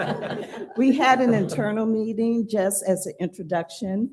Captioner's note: laughter